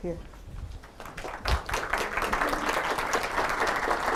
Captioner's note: applause